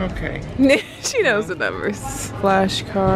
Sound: laughs

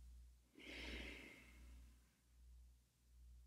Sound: exhales

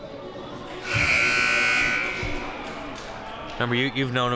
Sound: buzzer sounding

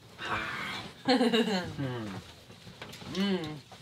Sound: laughs

